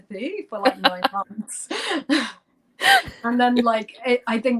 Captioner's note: laughter